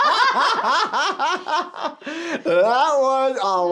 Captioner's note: both laughing